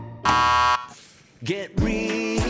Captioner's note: button buzzes